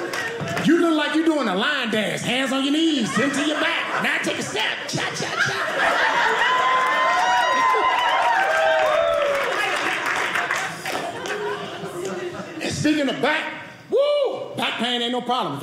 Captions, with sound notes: You look like you're doing the line dance. Hands on your knees. Then to your back. Now take a step. Cha, cha, cha. (audience laughing) (audience cheering) And speaking of back, woo, back pain ain't no problem.